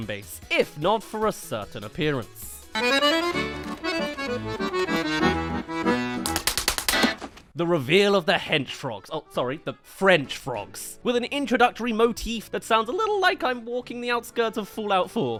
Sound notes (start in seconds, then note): 2.6 accordion* *Appeared* *Slapped